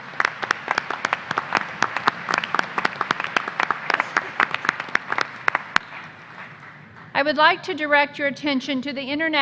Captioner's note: applause